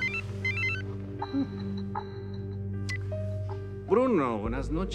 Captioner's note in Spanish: Suena el teléfono